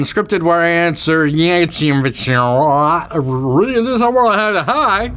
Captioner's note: talking backwards